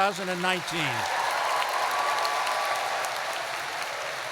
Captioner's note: applause